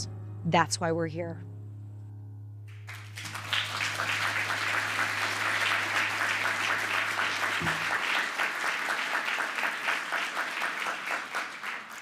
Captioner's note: applause